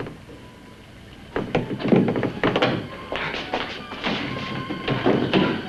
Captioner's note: anticipatory music; door creaking